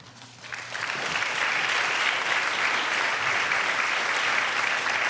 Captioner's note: audience applauding